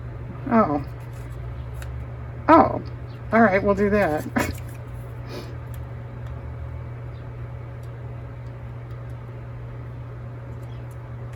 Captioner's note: laughs